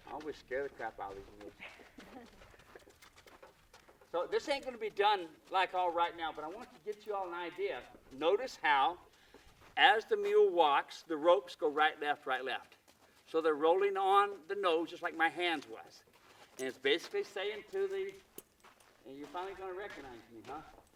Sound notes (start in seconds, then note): 2.4 laughter